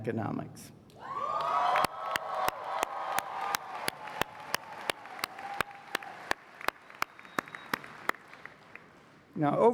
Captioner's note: applause